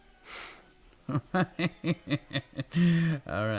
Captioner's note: Brad chuckling